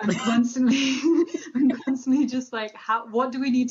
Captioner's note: both laughing